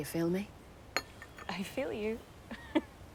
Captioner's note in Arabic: ضحكة مكتومة